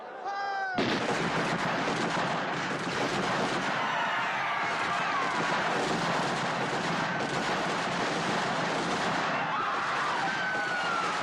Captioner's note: gunshots and screaming